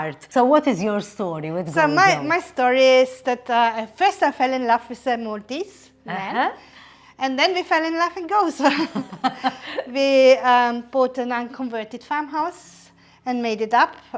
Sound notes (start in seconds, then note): 8.6 both giggle